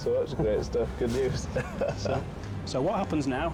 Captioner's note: laughing